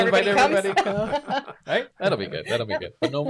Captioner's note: laughs